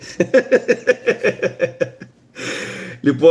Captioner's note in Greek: γέλια